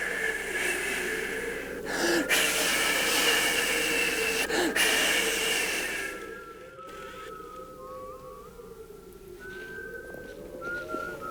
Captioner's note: whistling and wind sounds